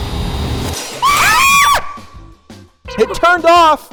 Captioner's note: both screaming